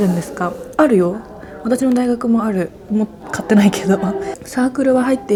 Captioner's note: laughs